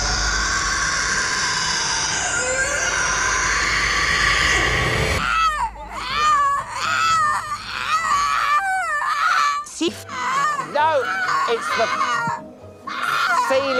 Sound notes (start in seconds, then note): 3.4 Banshee wailing; 5.2 Celia wailing